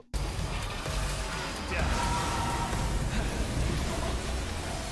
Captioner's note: gameplay playing